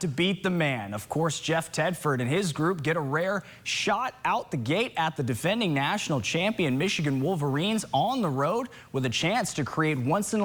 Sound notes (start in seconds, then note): none